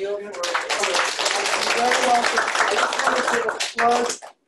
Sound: applause

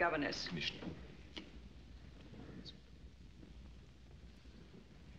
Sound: whispering

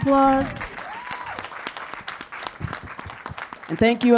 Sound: audience claps

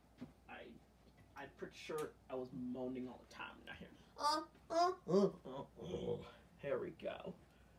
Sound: moaning

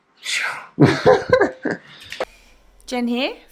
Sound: laughing

